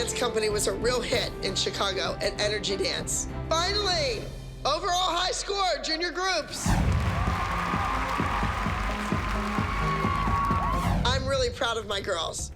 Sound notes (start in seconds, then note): 6.7 cheering and applause